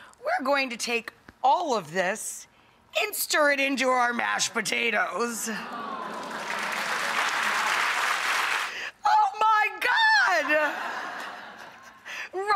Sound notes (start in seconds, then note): 6.0 audience clapping; 10.5 audience laughing